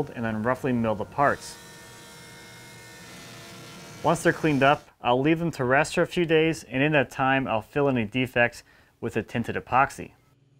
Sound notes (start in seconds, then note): 2.0 planer buzzes